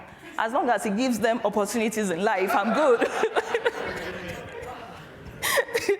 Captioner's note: laughs